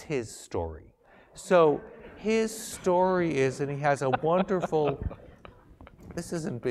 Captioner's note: laugh